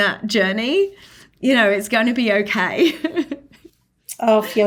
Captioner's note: laughing